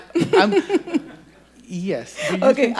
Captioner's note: audience laughing